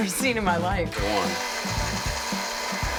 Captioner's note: drilling